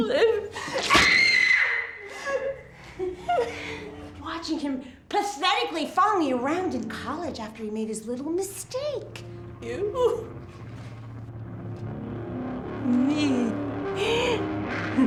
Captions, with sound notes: Liv. (screaming) (crying) - Watching him pathetically following you around in college after he made his little mistake. - You? - Me?